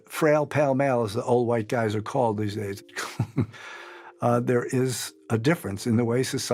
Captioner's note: laughs